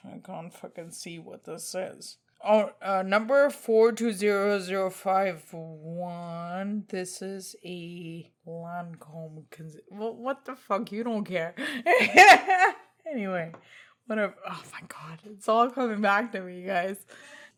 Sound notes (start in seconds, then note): 11.6 laughs